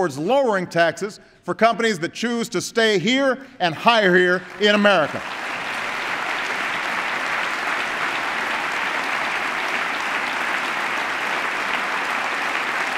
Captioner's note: applause